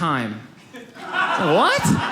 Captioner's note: audience laughs